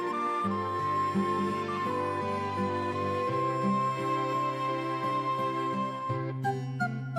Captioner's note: hic